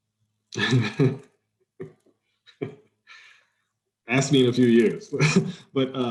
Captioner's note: laughs